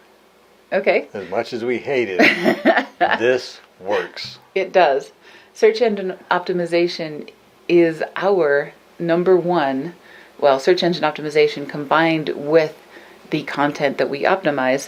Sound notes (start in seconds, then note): 2.2 laughs